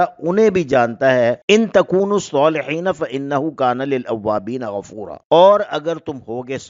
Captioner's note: in Arabic